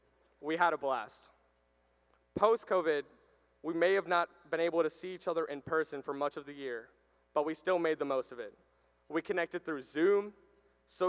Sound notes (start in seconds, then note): none